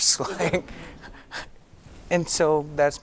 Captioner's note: giggling